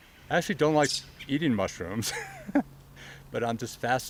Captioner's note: chuckles